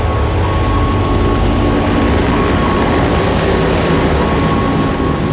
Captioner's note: helicopter zooming